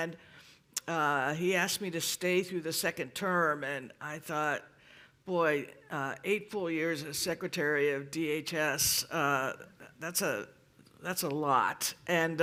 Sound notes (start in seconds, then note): none